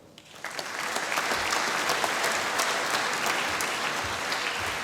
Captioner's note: applause